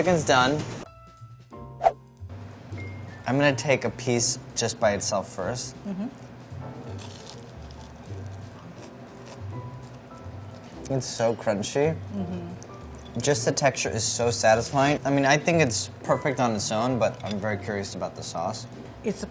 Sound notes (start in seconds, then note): 1.5 calm background music; 6.8 crunching on fried chicken